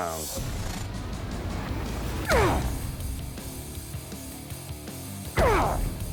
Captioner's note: grunting